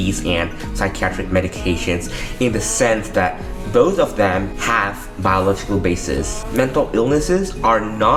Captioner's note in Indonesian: gangguan